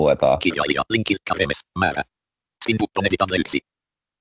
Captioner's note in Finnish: ruudunlukijan puhetta